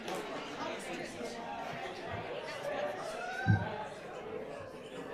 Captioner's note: crowd applauds; faint voices chattering